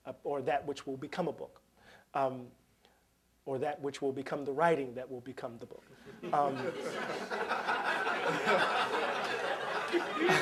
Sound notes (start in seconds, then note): 6.1 laughter